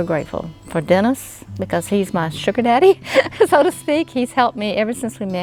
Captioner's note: laughs